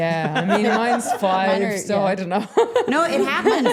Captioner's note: laughing